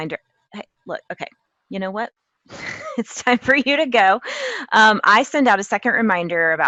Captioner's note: laugh